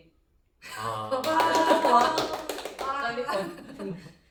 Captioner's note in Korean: 박수